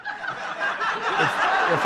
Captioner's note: crowd laughs